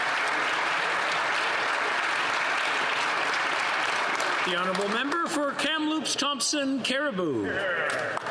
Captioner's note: applause